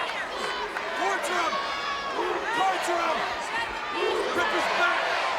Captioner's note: crowd chanting